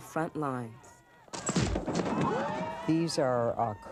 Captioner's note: face strike; cheering